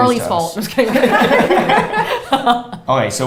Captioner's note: all laughs